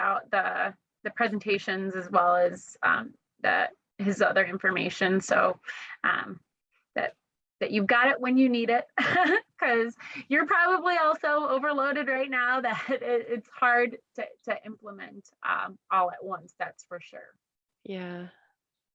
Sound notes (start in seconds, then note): 8.9 laughter